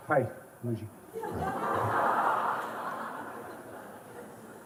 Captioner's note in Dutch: gelach